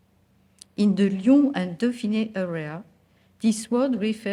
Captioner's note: speaking french